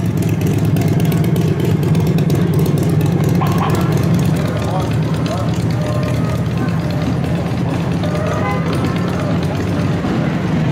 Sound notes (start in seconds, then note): 0.0 ambient parade and city sounds; 0.0 including motorcycle loud engine